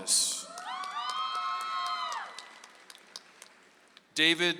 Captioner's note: audience applauds